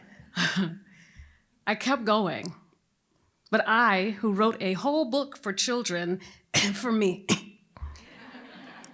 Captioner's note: cough